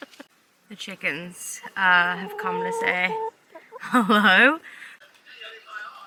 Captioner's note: chickens making weird noises